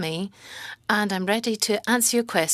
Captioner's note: speaking French